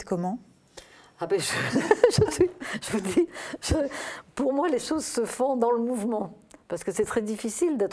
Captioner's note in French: rires